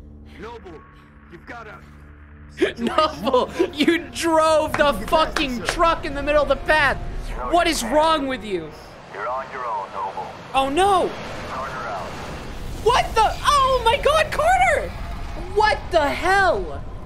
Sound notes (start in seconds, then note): 2.7 laughing